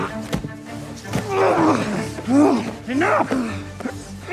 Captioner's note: men grunting